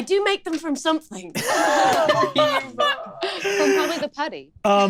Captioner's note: laughs